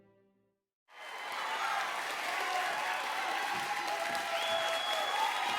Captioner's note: audience applauding